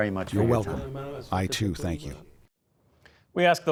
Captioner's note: through translator